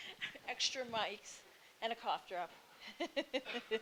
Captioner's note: laughing